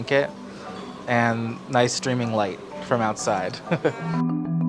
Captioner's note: chuckles